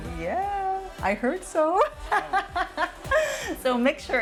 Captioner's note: laughs